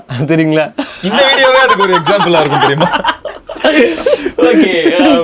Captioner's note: group laughs